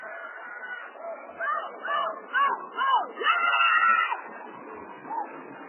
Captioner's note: screaming